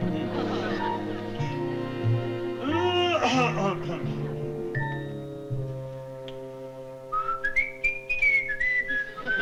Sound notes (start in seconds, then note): 7.1 whistling